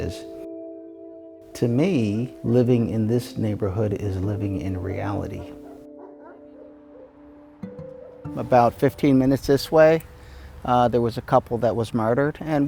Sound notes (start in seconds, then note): 0.3 gentle music continues; 5.5 dog barks; 5.7 gentle music continues